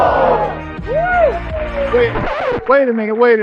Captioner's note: cheering